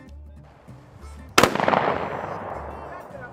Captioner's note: gun shots